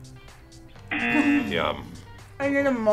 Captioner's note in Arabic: طنين الجرس